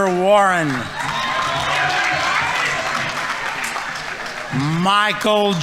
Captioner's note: audience applauding